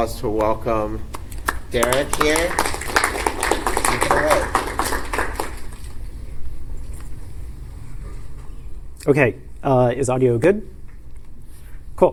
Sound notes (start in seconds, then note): 3.7 applause